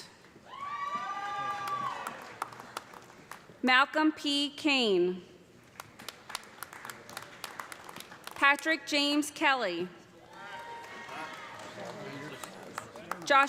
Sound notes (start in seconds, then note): 0.4 cheers and applause; 5.6 applause; 10.2 cheers and applause